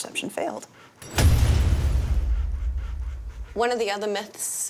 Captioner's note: metal clanging; metal thudding